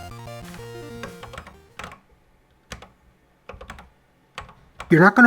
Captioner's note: typing on a C64 keyboard